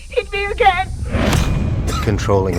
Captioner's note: crying